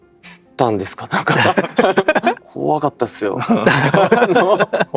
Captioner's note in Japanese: 笑い